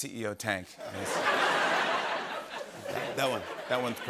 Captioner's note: laughter